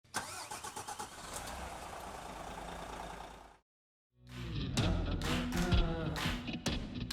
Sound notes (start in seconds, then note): 0.2 car engine roaring; 4.4 soft music